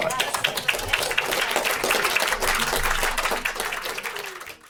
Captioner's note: audience applauding